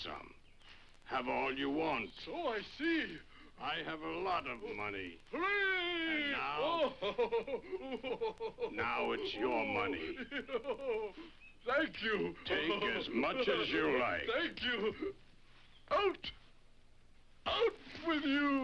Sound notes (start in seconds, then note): 5.2 laughs